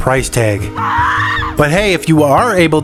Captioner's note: woman Scream Sound Effect